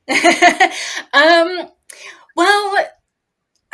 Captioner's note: laughs